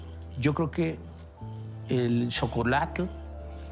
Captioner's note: man 3 in Spanish; stone scraping